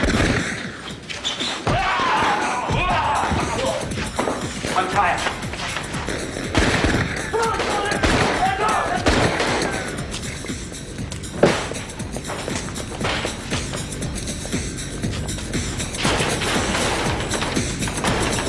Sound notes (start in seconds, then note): 6.6 gunshots fire; 8.0 kidnapper shouts in distance; 12.2 energetic techno music